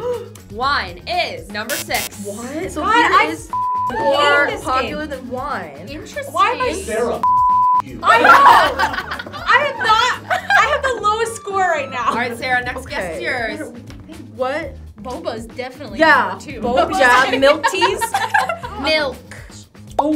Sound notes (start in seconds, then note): 3.5 beep; 7.2 beep